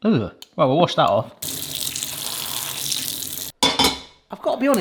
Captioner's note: water pattering